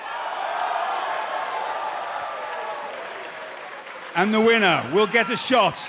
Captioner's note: cheers and applause